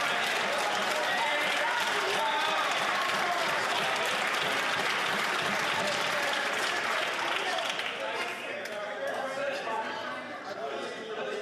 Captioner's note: some Applause